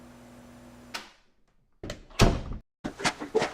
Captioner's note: opening and closing door sound effect